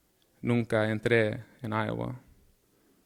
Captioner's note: speaking in Spanish